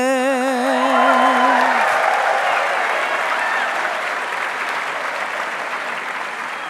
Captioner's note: audience cheering and applauding